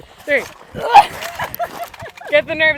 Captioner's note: laughs